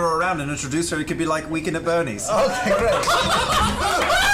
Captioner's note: laughter